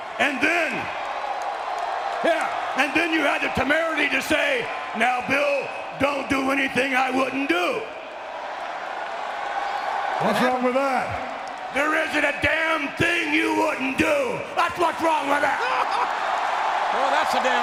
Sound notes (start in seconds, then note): 8.5 audience cheering; 15.5 Jerry laughs; 16.1 audience cheering